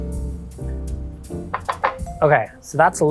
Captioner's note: bowl rattling